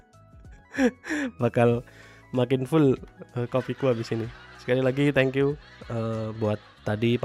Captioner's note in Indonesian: tertawa; terkesiap